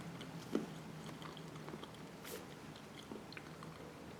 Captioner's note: chews thoughtfully on the fruit